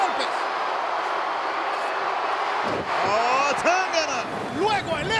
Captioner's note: applause